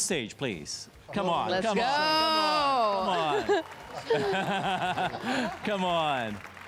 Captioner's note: applause and cheers